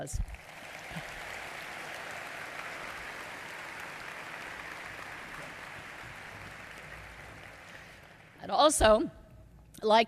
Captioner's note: applause